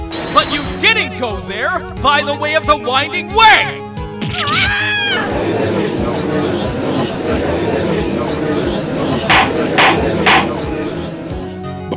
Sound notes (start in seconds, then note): 5.2 gallery chattering; 9.3 gavel slams!